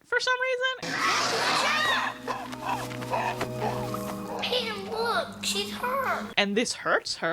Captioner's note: roars and yipping